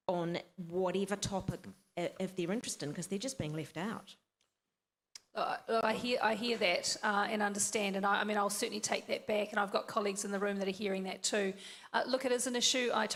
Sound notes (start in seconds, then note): none